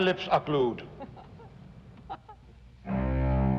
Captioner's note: laughter